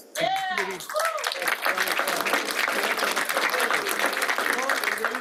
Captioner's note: cheers, applause